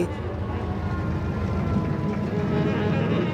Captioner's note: siren